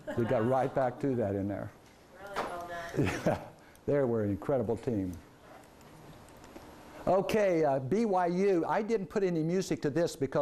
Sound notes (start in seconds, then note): 2.8 laughs